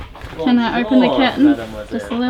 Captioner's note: speaks in French